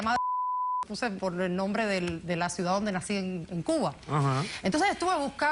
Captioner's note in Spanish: Bip